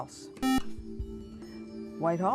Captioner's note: beep